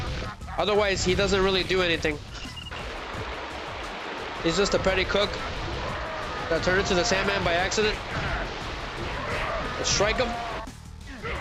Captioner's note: groaning